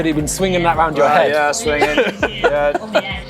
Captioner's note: laughs